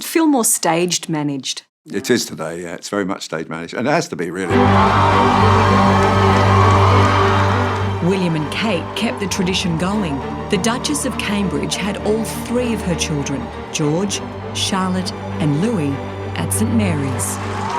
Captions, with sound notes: - Does it feel more staged managed? - It is today, yeah it's very much staged managed and it has to be really. (violins playing) (cheering) - William and Kate kept the tradition going, the Duchess of Cambridge had all three of her children, George, Charlotte, and Louis at St Mary's.